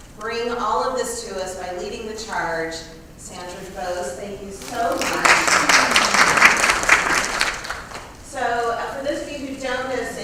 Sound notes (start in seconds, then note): 4.8 applause